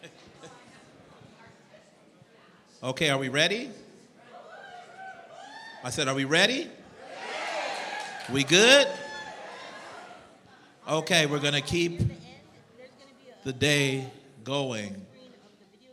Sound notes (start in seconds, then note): 4.3 cheering; 7.0 louder cheering